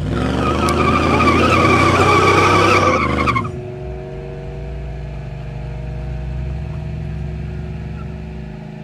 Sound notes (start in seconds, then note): 0.0 engines run as tires squeal; 4.1 engine revs